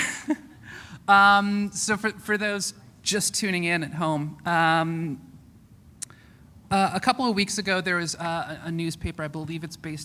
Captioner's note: chuckle